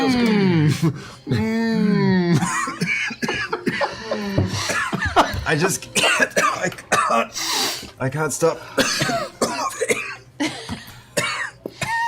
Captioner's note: coughs, sniffs; coughs